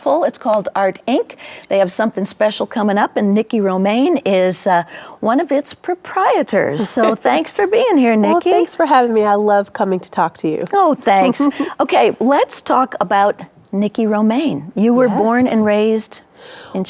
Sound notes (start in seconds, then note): 6.8 chuckling; 11.0 chuckling